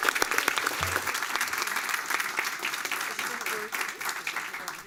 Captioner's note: applause